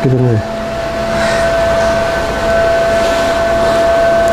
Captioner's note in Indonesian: menghembuskan nafas